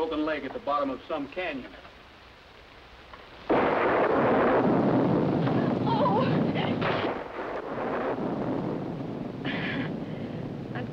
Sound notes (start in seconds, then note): 3.4 thunder